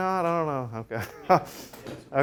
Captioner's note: laughs